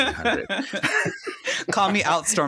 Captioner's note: both laugh